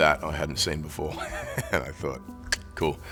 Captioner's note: Chris chuckles